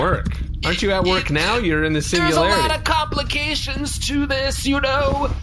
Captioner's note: nervous